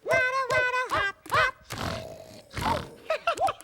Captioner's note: snore snore